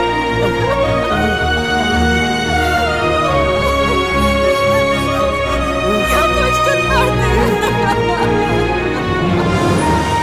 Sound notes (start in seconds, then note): 1.4 cries; 4.4 cries